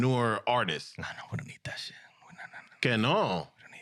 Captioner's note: speaking In Foreign Language